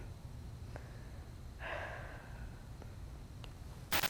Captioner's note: sighs